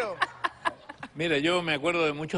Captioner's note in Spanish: Risas